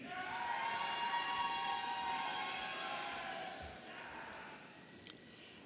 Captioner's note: audience applauding and cheering